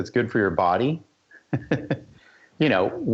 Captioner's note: laughter